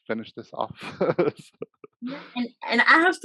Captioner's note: laughs